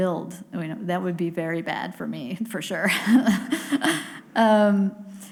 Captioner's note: laughs